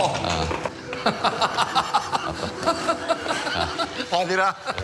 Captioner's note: laughing; speaking Korean